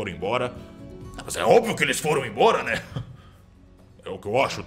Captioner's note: laugh